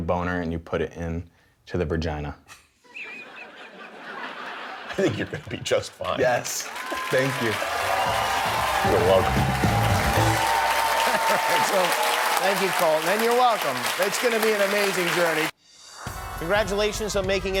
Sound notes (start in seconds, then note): 6.6 laughter; 10.6 cheers and applause